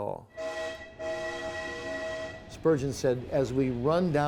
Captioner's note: barulho de trem